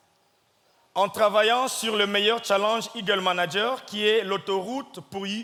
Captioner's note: speaking in French